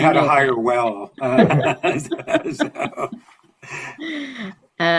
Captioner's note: laughter